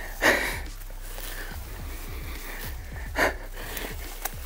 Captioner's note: laughs